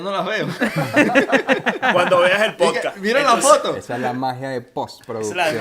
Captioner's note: laughs